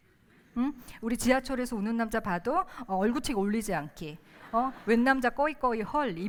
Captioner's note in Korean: 웃음